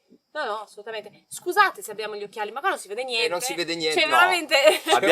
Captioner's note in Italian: risate